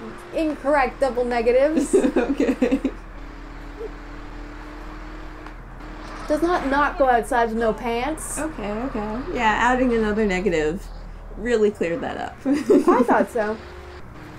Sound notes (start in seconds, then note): 1.6 laughing